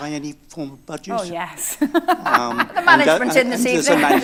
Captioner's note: laughter